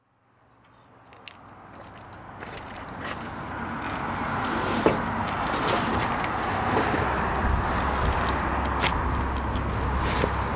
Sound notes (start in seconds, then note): 4.6 vehicles going by on freeway